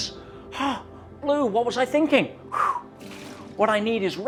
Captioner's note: exhales